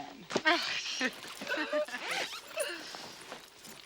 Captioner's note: ladies laughing